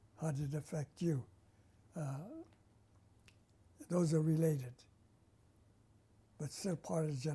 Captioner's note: pauses for 3 seconds